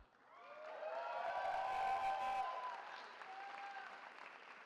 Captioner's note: cheering